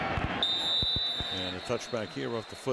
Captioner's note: whistle